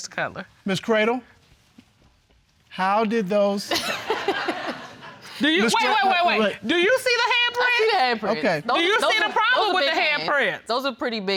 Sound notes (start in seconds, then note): 3.7 audience laughing